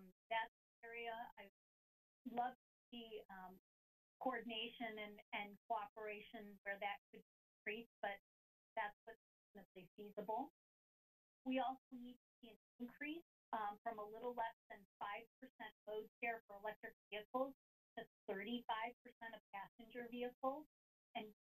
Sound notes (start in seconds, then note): 9.1 audio cuts